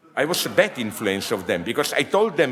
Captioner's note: audience laughs